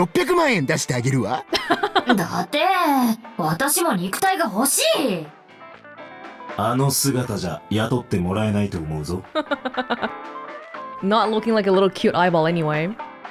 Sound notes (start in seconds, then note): 1.5 chuckles; 9.3 chuckles